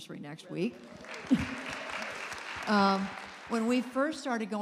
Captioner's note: applause